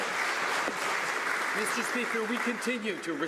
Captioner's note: some Applause